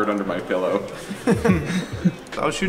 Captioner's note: laughing